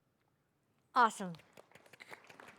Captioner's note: cheers and Applause; speaker off mic; applause; speaker off mic